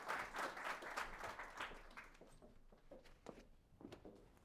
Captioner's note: applause